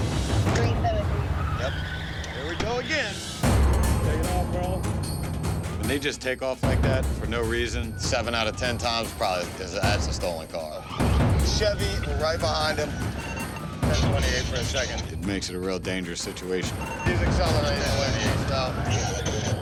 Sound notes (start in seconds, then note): 0.0 tires screeching; 11.4 radio chirps